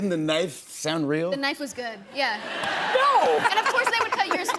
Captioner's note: laughter